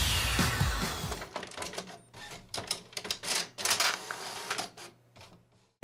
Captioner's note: rock Music; printer Sounds